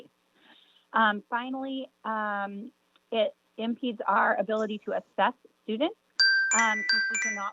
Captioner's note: chime